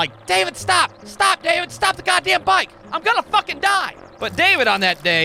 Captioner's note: none